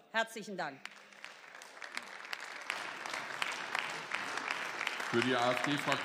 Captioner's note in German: Beifall